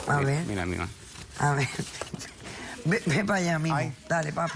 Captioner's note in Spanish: Risas